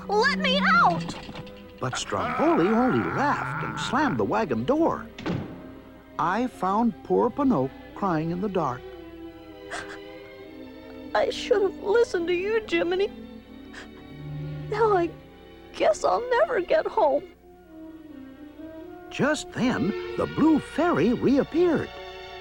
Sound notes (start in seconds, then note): 2.0 Stromboli laughs; 5.1 door slams; 9.7 crying